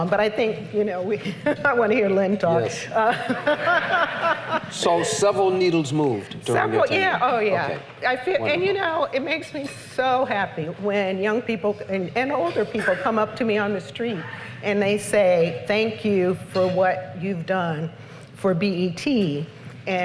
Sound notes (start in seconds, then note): 3.0 laughter